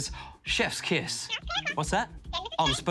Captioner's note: chattering